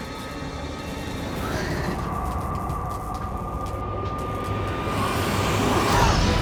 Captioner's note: air passing; hissing